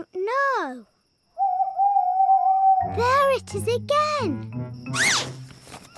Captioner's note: owl hoots